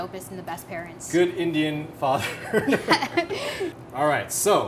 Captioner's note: both laugh